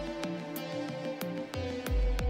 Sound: none

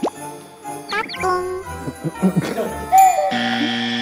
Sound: can't resist from laughing

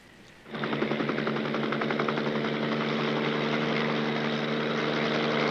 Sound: helicopter blades chopping

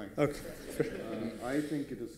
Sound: laughter

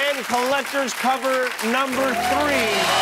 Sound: cheers and applause

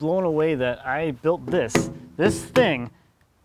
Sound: metal thuds

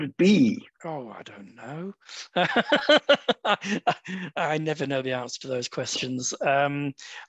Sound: laughs

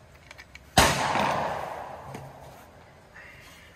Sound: gun bangs

